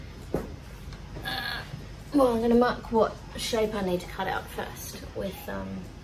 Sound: grunts with effort

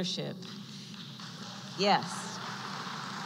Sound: applause

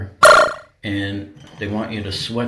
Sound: synthesized tone beeps

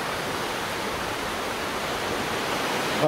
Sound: waves crashing

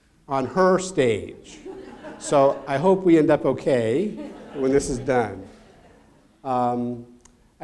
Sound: laugh

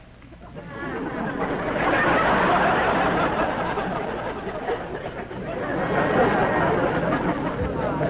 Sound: laughter

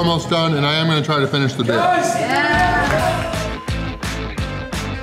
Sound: crowd

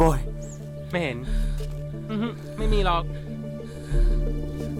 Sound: Malay Language

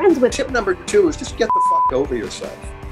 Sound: beep

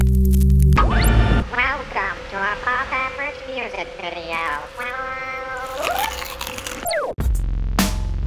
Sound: humming noise; whooshing sound; computerized voice

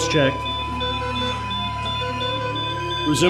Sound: beeping noises

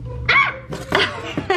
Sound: shrieks; laughs

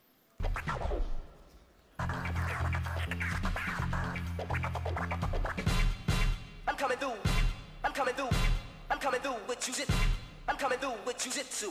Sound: scratching

